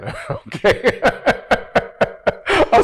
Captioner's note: laughs